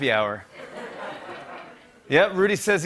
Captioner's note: laughter